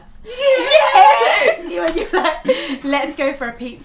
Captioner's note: cheering